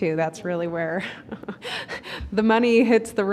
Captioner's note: chuckling